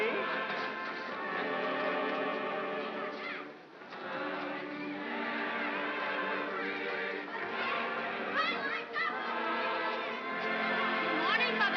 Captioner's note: sounds of happy voices